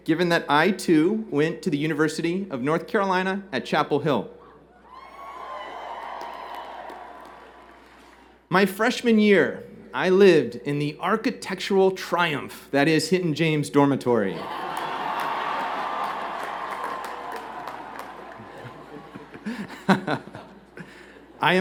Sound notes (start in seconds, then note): 4.8 cheers and Applause